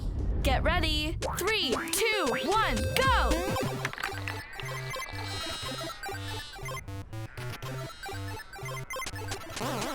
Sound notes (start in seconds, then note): 3.4 video game sound